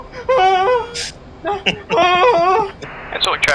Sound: scream; scream

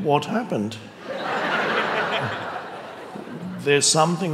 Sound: audience laughing

